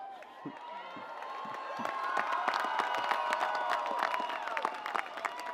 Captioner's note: audience cheering